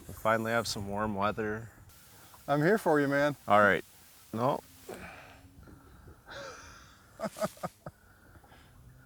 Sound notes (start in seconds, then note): 7.2 laughs